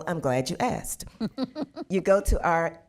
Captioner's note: laughing